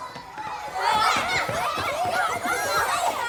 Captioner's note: children clamoring